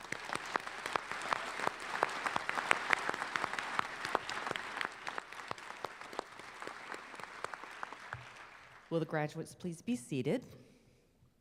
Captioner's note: applause